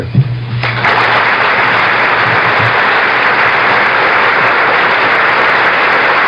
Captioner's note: applause